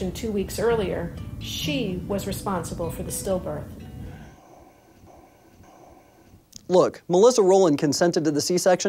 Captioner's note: sighs